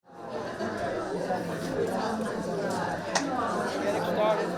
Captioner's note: indistinct chatters